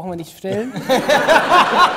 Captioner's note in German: Gelächter